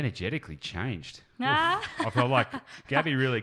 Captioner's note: laughs